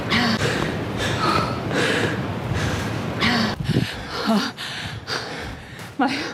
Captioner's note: heavy breathing